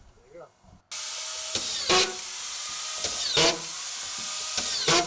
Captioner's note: machine whirs